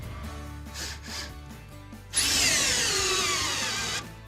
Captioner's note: drilling sound